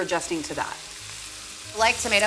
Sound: sizzling

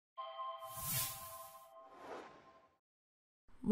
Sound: intro sound effect

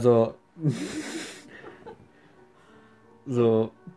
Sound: laughs

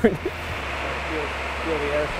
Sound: air blowing

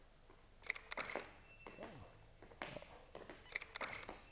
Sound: camera shutter clicks

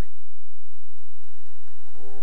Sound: cheering and applause

